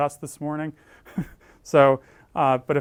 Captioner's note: laugh